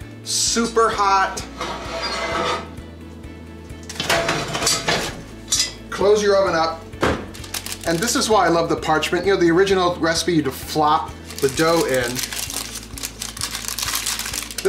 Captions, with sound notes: Super hot. (metal scraping) (clanking) Close your oven up. (thumping) And this is why I love the parchment. You know the original recipe, you'd have flopped the dough in. (paper crinkling)